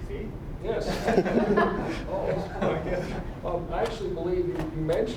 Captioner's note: audience laughing